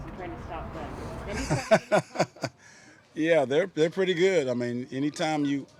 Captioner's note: laughs